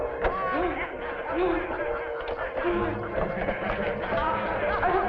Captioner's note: Elizabeth laughing